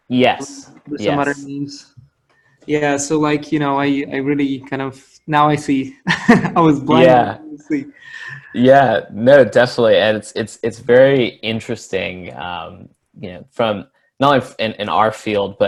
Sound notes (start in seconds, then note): 5.6 laughs